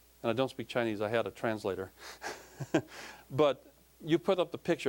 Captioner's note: laughing